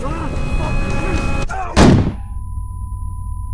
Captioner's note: gun shot